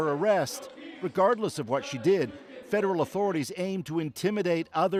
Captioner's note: chants